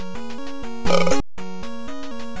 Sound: burp

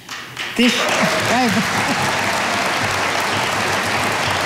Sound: audience applauding

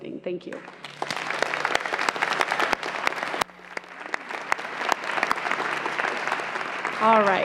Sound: applause

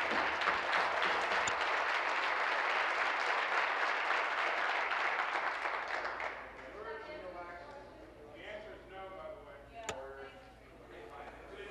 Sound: applause

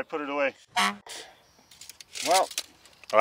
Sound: horn honks

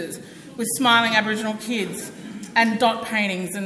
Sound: audience laughs

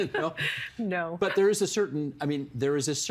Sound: laughter

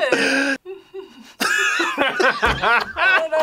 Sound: chuckles; all laugh

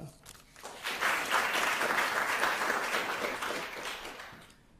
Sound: crowd applauding

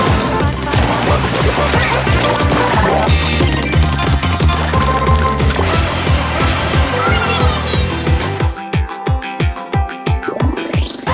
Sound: more octo sounds

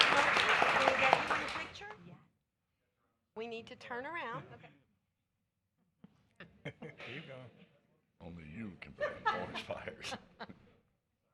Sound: applause

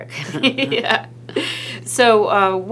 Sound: laughs

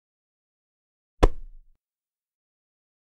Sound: sound of pillow

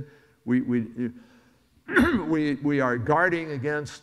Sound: coughs

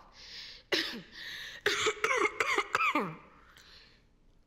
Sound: coughing

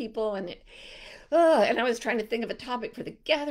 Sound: sighs heavily

